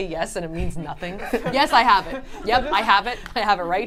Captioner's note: group laughs